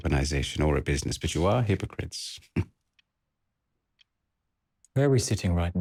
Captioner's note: laughs